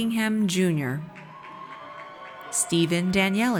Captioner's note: audience cheers